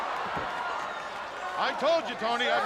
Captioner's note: crowd cheering